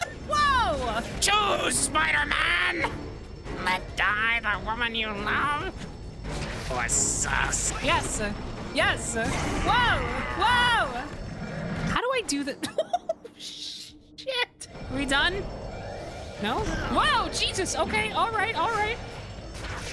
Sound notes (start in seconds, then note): 12.5 laughing